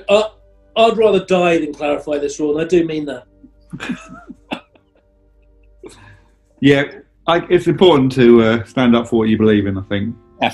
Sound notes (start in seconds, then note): 3.7 chuckling